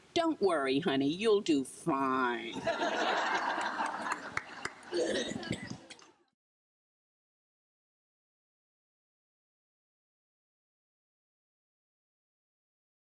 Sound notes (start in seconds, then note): 2.5 crowd laughs; 4.0 audience member claps